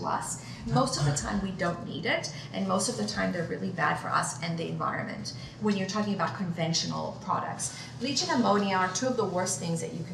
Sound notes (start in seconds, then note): none